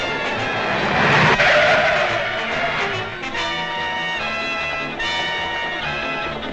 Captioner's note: tires screeching; engine rumbling